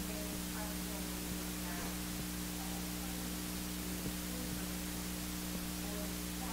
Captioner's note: microphone feedback drowns out audience member